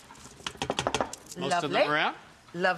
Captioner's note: pan rattling